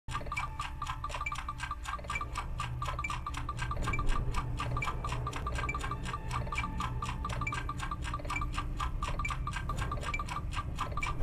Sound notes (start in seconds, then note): 0.1 ticking Sound